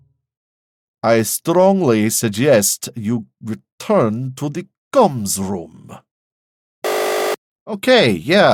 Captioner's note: buzzer